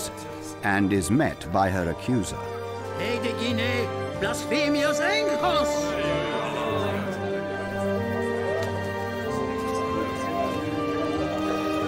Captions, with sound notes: and is met by her accuser. (man shouting in Greek) (dramatic music continues)